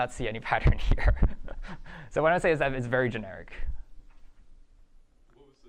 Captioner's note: chuckles